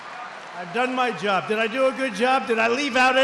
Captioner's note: applause